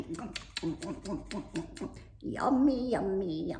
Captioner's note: smacks lips